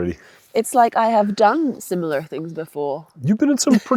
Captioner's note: laughs